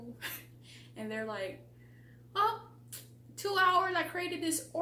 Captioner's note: chuckle